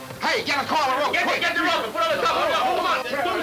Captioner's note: men yelling simultaneously